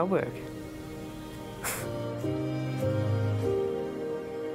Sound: chuckles

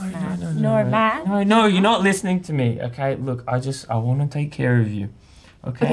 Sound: none

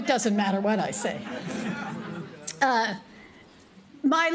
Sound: laughter

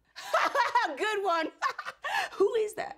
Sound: laughs

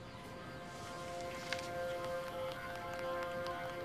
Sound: dialing

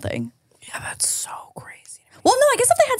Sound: whispering

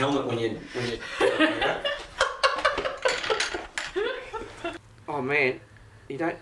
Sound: men laughing

